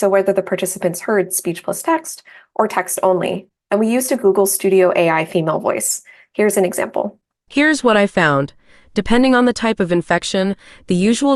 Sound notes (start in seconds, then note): 6.7 TTS voice